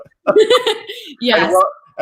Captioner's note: laughs